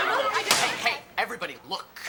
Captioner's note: locker door slams